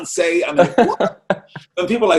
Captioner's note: laughs loudly